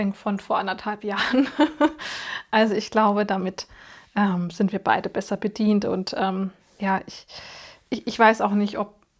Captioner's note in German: gelächter